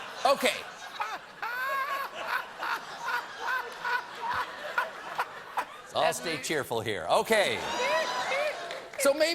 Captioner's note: laughter